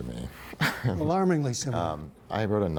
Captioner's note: laughter